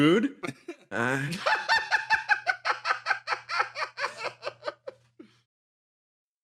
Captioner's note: laugh